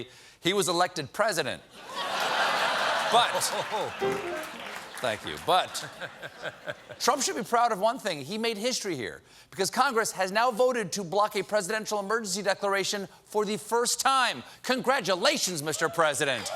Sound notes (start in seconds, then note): 1.8 laughter